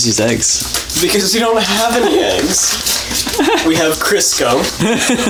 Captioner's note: laughing; laughs